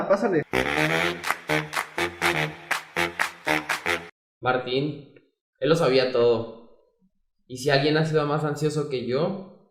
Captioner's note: applause